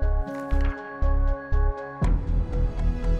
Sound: slide flips; gentle music

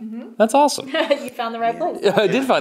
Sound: laughs

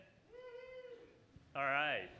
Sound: woman cheers

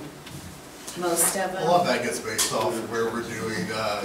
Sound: murmurs

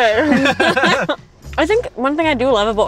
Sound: laughing

